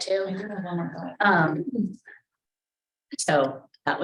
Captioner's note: speaks faintly